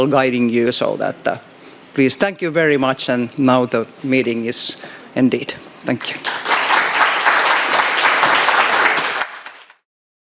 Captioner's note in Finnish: Suosionosoituksia